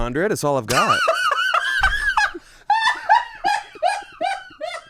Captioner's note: laughs